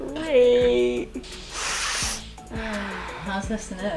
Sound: sniffs loudly

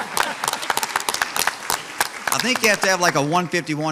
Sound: audience applauds

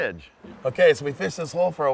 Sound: water flowing

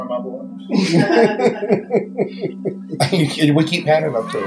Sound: laughing

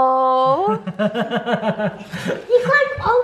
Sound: laughing

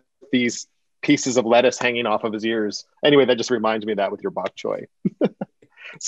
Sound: laughter

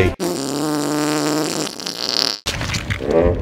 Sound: wet far sound effect

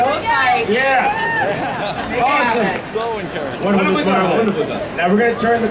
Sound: audience cheering

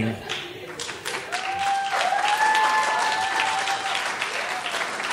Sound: applauding and cheering

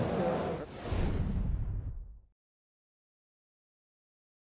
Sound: whooshing sound

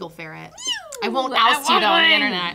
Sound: meows

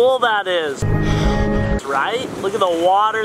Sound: gasping

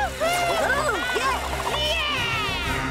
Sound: both exclaiming

